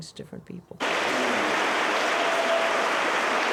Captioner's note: audience applauds